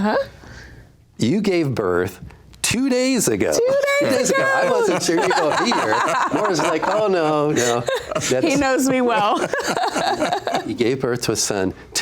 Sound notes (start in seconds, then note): 9.5 laughs